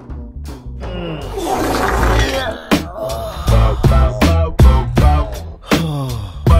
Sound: wet fart sound

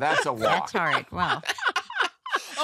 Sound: laughter

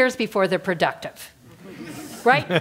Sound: laugh

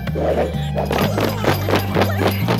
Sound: laughing

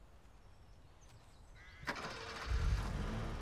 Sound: engine starts

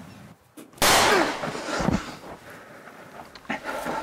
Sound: gun fires

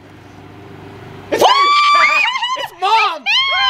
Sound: yelling

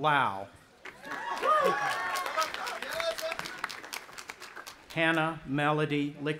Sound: audience applauding and cheering

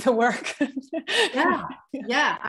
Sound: chuckle

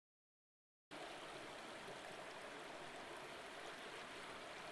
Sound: water trickling

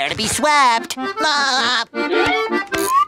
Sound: laughing

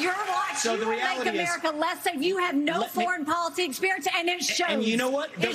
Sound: cheers

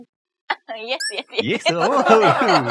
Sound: laughs

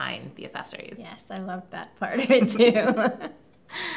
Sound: laughs

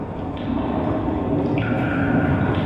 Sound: thunder rumbling; water dripping

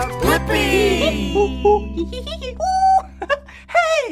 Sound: funny noises

